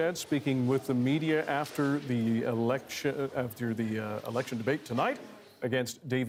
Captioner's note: crowd Noise